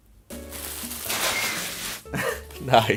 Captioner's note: chirping